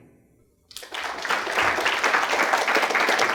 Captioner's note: applause